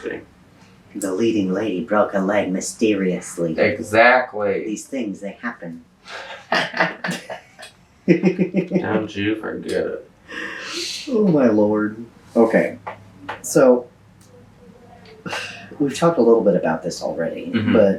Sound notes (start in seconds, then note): 6.1 laughter